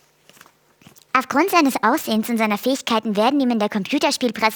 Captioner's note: hohe Stimme